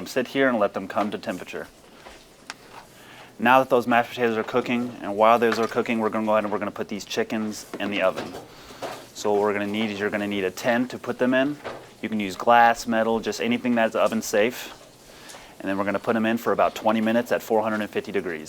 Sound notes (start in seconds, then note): none